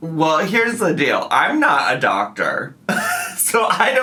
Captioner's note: laughs